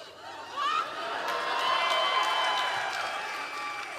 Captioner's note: audience cheering